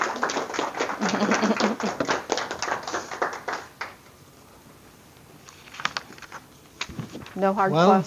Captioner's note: audience applause